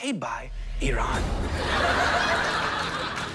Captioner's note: thunder crashes